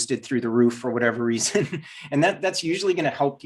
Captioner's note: giggles